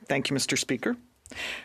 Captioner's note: speaking French